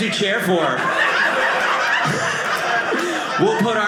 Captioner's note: audience laughing